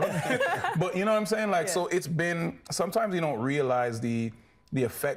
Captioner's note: laughing